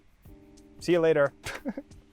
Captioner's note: laughs